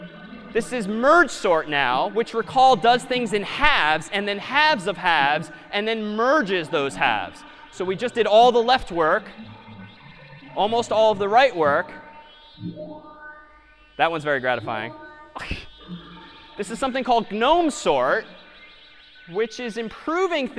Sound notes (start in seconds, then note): 15.4 laughs